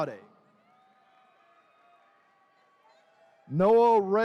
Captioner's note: attendees cheering